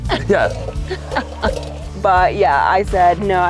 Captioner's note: laughing